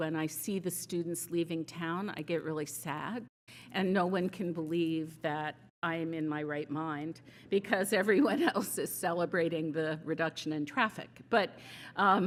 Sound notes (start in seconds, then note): none